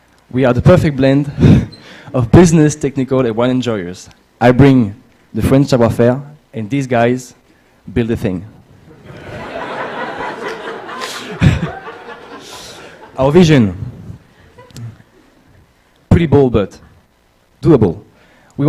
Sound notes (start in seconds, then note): 5.8 french; 8.9 laughter